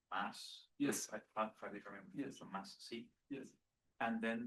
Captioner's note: speaking faintly